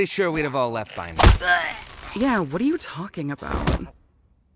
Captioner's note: gagging